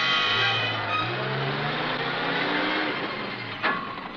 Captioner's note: truck engine